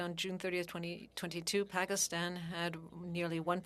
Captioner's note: speaking French